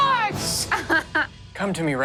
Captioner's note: laughs